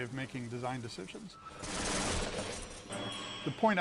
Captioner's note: metal creaking